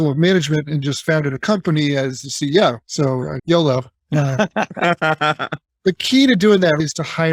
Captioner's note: laughing